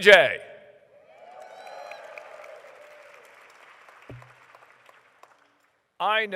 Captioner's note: applause